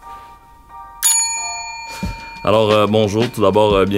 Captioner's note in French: son de clochette